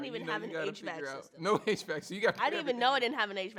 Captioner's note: laughs